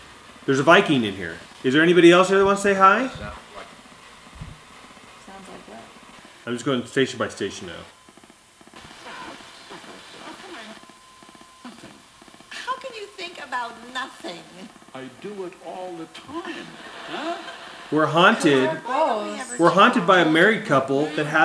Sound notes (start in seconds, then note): 8.5 static crackling; 13.0 voiceover